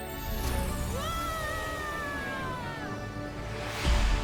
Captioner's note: screams